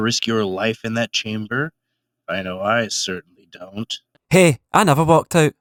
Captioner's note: under breath